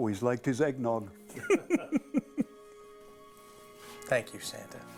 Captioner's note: laughing